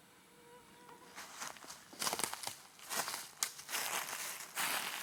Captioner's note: insects buzzing; footsteps pattering